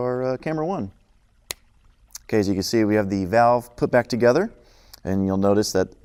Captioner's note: snaps Fingers